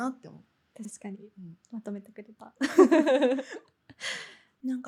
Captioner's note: laughs